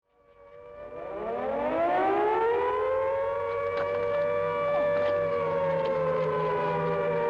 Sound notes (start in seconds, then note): 0.1 siren blaring